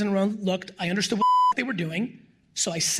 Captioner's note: beep